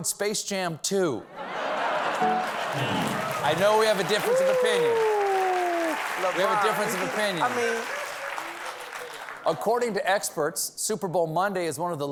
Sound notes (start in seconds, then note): 5.5 laughter